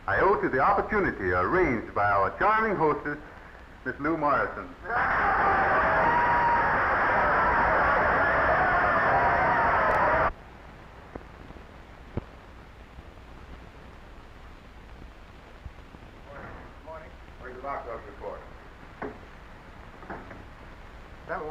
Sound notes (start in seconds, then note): 4.8 audience cheering